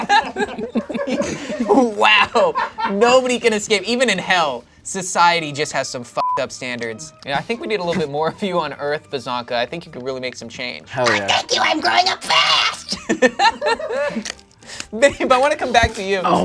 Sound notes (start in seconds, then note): 0.0 laughs; 12.0 screeches; 13.8 laughs